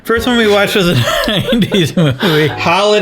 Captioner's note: both laughing